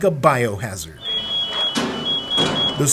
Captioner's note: beeping of alarm